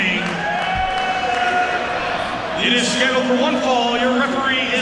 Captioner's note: applause